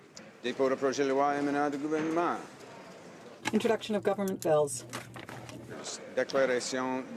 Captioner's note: speaking French